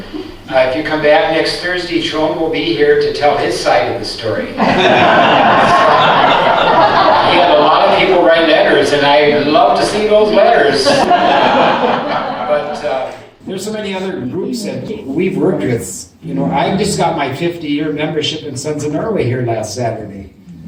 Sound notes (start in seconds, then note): 4.5 laughter; 10.8 more laughter